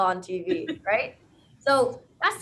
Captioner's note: laughs